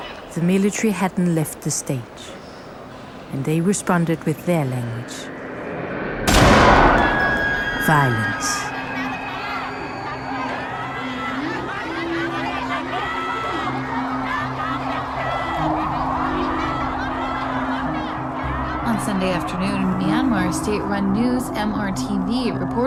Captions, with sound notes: the military hadn't left the stage. And they responded with their language: (gunshot) Violence. (screaming and sirens) On Sunday afternoon, Myanmar state-run news, MRTV, reported